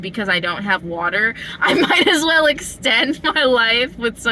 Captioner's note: laughter